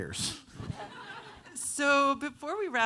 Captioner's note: audience laughing